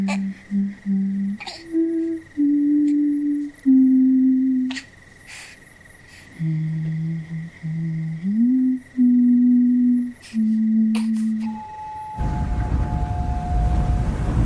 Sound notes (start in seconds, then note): 3.4 humming; 9.0 crickets chirpin